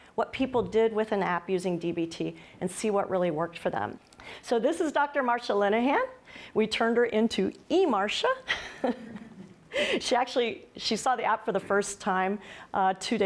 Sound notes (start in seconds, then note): 8.5 laughs